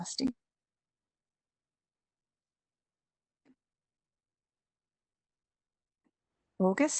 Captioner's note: temporary audio drop-out